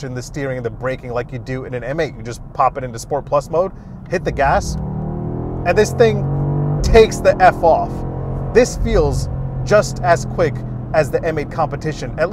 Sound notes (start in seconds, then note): 4.8 car engine revving